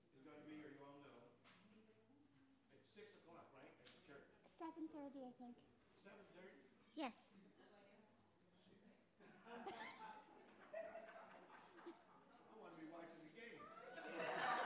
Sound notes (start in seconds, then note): 9.2 laughter